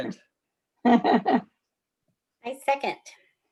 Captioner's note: laughs